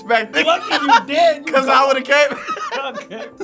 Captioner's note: laughs